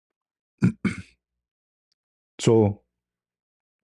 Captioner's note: batuk dan membersihkan tekak